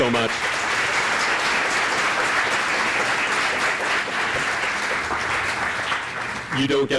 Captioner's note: applause